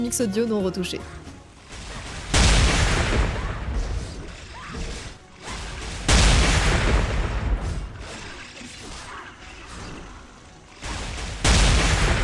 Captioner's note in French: bruits de combat